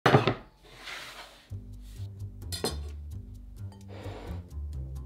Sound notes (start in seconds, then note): 0.6 board sliding; 3.8 bowl sliding